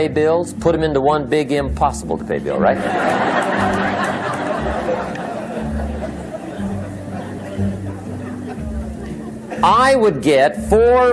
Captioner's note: laughter